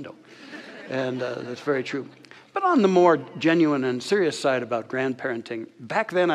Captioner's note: audience laughter